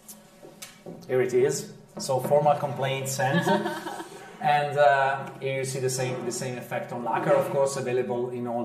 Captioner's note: laughter